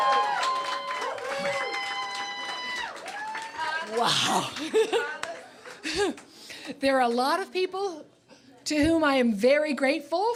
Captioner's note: cheers and Applause